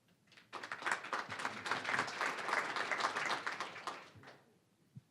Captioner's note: applause